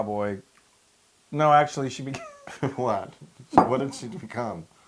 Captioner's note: laugh